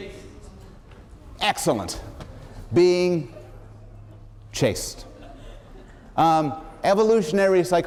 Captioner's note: laughter